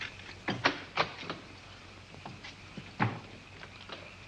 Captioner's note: door opens